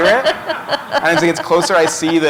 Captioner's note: laughter